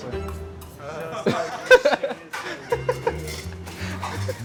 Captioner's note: laughing